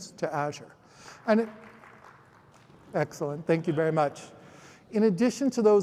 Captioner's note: applause